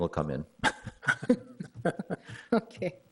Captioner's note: people chuckle